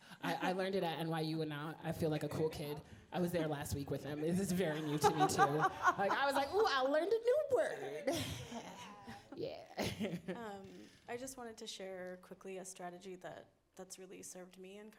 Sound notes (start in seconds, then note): 4.7 audience laughing; 7.8 laughing